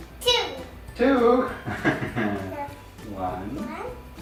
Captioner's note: laughter